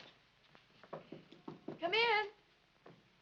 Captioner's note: knocking at door